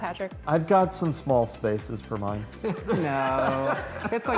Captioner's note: laughter